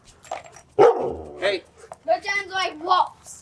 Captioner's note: Shep barks